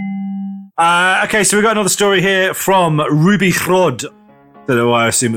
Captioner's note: in Welsh accent